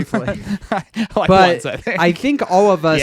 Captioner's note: laughs